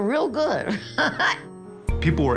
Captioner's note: laughing